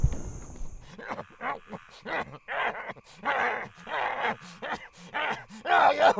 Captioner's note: Dogmouth growling and gasping